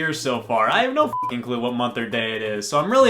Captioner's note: beep